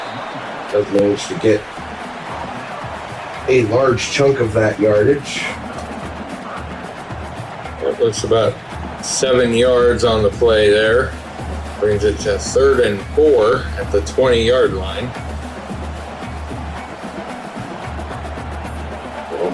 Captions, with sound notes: To get a large chunk of that yardage. [Crowd Noises] It looks about seven yards on the play there. Brings it to third and four at the 20 yard line. [Crowd Noises]